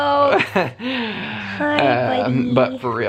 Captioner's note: chuckling